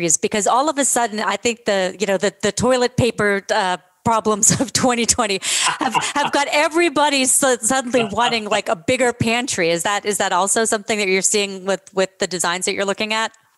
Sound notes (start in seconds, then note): 5.5 laughter